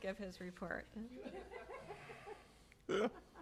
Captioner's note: laughter